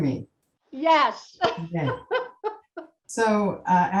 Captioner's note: laughs